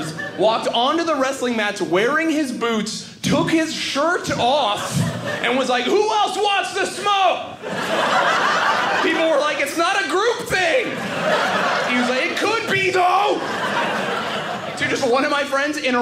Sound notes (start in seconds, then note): 7.4 audience laughing; 13.4 audience laughing